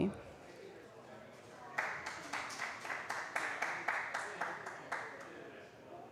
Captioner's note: applause